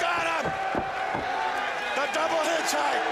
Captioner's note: crowd chatter